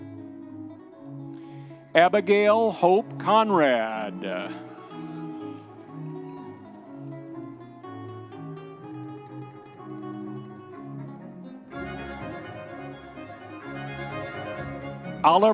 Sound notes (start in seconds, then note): 4.9 audience members cheering